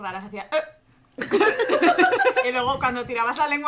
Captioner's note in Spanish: risas